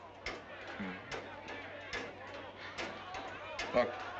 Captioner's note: townsfolk clamoring - chattering below